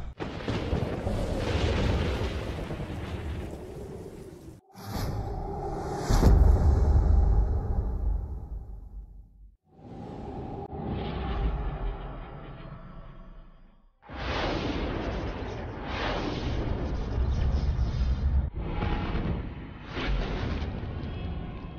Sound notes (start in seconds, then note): 0.0 thunders rumbling; 4.7 dramatic sounds; 9.7 dramatic winds howling; 14.2 lightning strikes briefly; 18.4 dramatic sounds